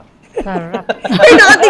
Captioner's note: laughs